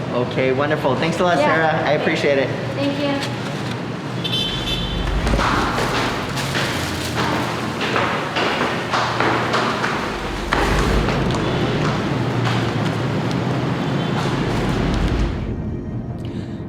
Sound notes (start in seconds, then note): 6.1 footsteps clacking